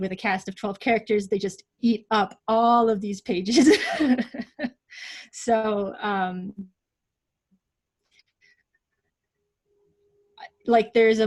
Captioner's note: laughs